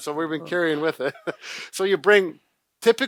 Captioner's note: chuckles